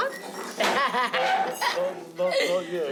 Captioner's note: laughs